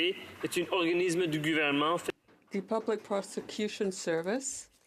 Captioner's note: speaking French